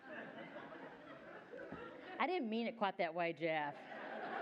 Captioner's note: laughter